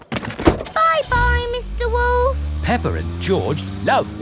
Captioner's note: engine starts